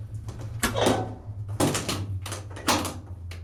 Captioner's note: door locks